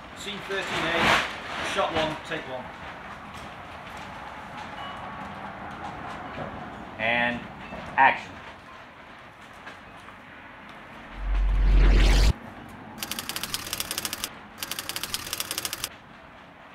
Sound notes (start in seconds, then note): 11.0 eerie woosh; 14.6 typewriter clicking